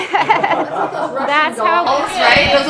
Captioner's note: all laughing